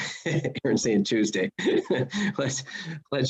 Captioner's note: laughs